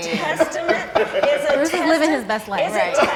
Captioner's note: all laughing